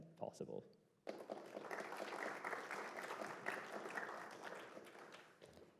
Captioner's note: applause